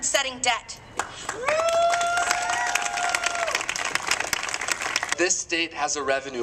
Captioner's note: applause